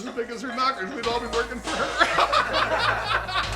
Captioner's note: laughing